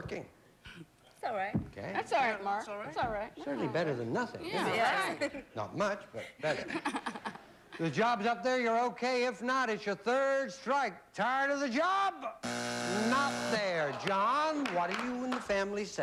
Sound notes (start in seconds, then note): 12.4 buzzer